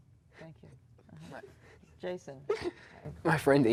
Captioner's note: giggling